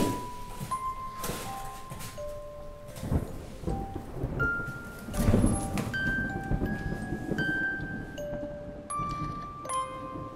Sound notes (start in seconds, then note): 3.0 thunder